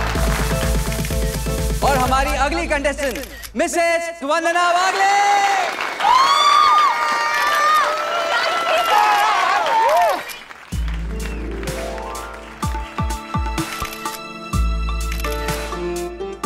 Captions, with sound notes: Our next contestant is Mrs. Vandana Wagle! [everyone clapping and cheering] [audience cheering] - [mellow music] - [cameras clicking]